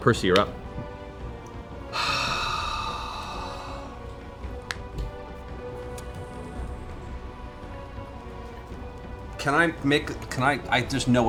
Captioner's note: sighs